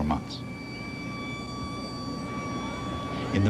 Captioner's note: sirens wailing